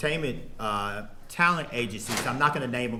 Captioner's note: door opens